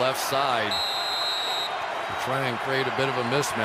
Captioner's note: whistle blows